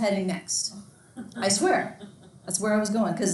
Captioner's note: student laughs